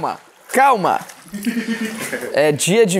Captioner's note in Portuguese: risadas